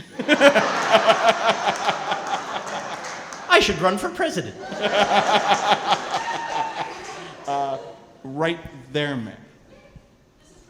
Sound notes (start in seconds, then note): 0.0 laughing